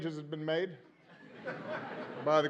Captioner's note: laughter